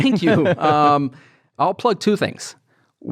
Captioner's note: laughs